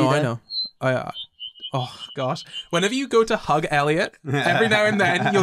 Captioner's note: hearing aid feedback